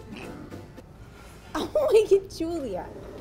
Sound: belches

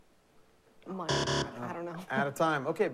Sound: buzzer

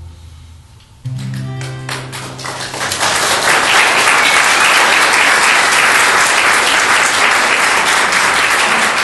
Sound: applause

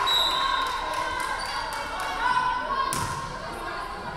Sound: referee whistling

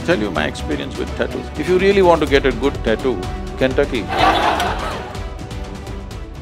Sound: laughter/Applause

